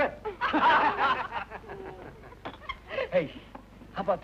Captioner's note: group laughing